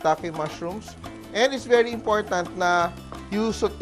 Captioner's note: sizzle